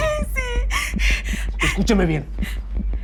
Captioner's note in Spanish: Sollozos